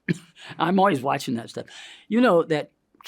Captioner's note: coughs